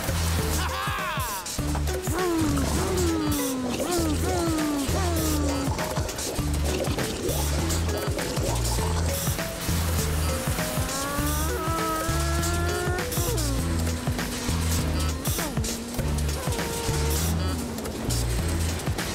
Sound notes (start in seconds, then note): 2.2 vrooming